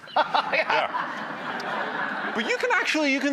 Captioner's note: laughs; audience laughing